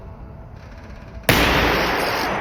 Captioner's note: gunshot